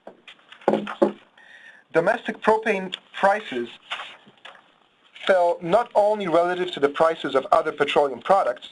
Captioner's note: pages turning; loud thud